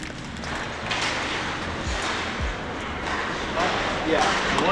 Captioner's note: hockey sticks hitting pucks